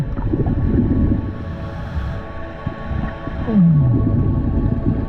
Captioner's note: underwater sounds continue